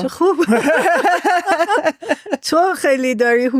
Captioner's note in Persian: خنده